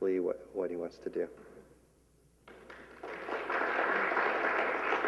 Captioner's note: applause